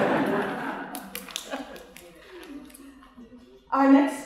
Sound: laughter

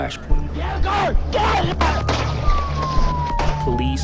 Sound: siren wails; gun firing

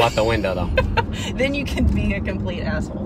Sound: laugh

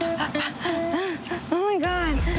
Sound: Moniece gasping

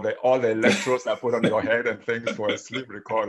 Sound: laughs

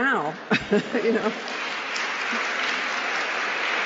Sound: applause

